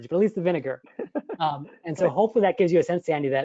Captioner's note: laughing